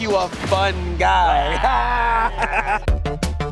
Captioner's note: family laughs; lively music